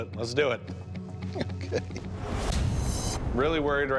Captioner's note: chuckling